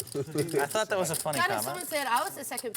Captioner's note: laughs